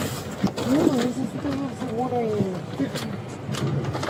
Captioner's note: speaking in foreign language